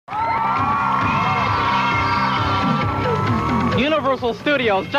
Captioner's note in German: Publikum jubelt und klatscht; fröhliche Musik